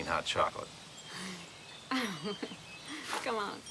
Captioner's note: Sarah laughs